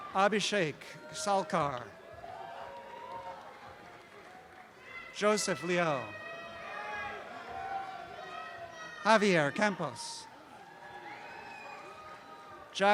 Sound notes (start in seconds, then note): 6.2 shouting and cheering; 10.7 cheering continues